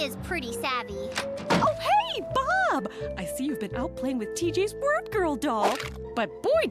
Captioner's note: door unlocks